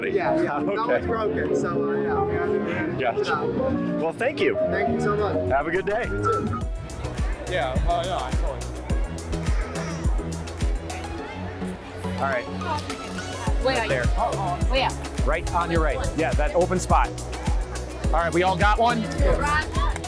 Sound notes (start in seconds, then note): 3.3 laughs; 7.0 upbeat music starts